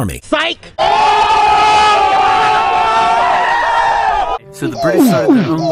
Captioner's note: cheering